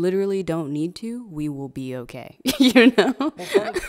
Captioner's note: laughing